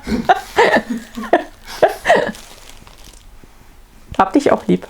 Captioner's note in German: lacht